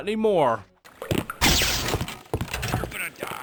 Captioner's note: zap!